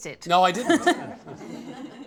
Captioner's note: laughter